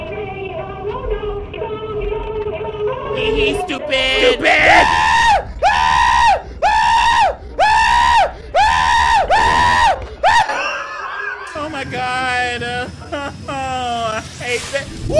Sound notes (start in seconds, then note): 0.1 creepy music; 4.2 screaming; 11.7 whines